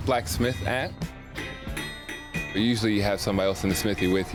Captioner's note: metal tapping